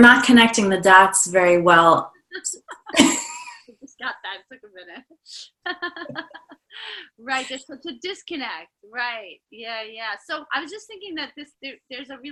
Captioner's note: laughing